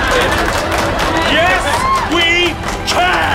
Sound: magical music; applause

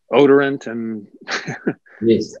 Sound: chuckles

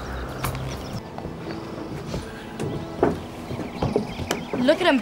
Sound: footsteps

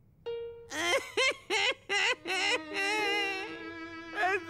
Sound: fake cries

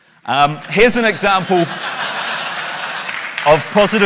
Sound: laughter, clapping

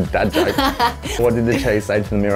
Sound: laughing

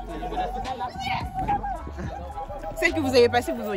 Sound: celebrating

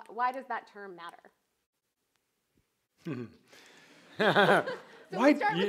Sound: laughter

